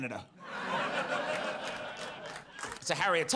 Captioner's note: audience laughs